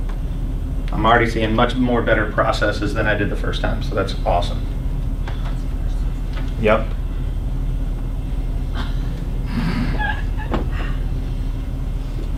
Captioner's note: laughs